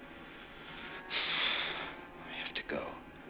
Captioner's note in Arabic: تنهدات